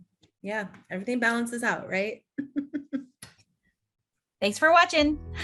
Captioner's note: chuckling